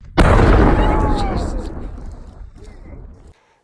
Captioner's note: explosion